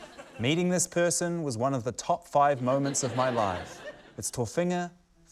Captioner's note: laughter